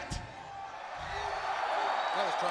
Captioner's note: audience cheering